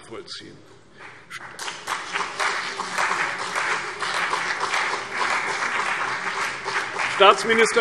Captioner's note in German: Beifall CDU und BÜNDNIS 90/DIE GRÜNEN